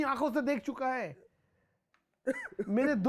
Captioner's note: Karan Cries